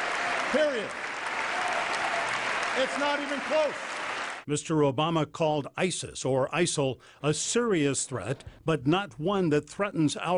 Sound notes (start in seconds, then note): 3.2 applause